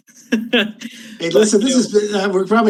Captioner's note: panelists laughing